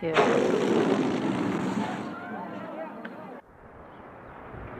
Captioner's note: balloon air squeaks out